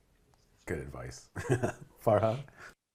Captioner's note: laughs